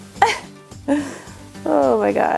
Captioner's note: laughs